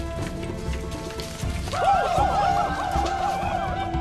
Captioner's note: natives whooping